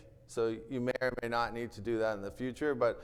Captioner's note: none